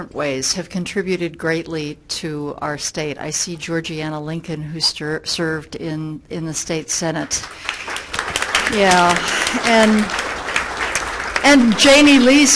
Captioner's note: everyone clapping